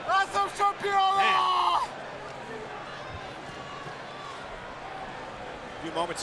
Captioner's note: Rusev yelling in Russian; crowd murmuring